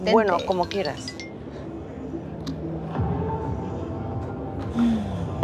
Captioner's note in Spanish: Suena un celular